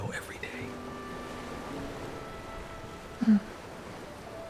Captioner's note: ocean waves rolling in